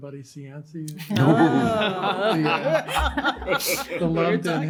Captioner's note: laughter